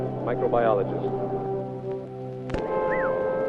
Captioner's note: whistles